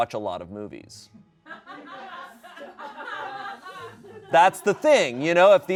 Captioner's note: audience laughing